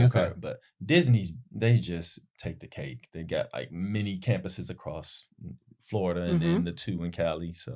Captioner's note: none